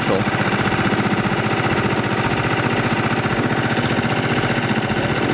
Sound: engine vibrating

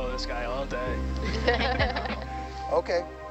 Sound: women chuckling

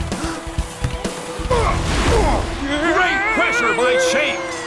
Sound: gasp; grunts

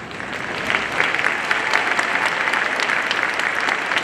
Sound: audience applauding

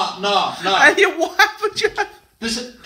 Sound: laughing

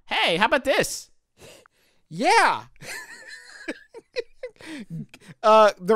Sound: laughs

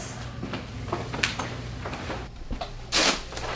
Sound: footsteps

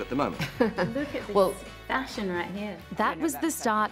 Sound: laughs

